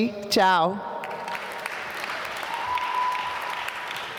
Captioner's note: applause